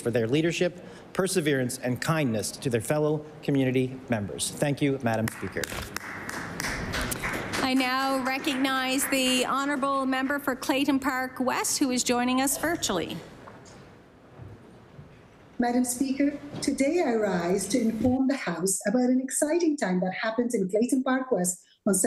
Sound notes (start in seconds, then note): 10.5 applause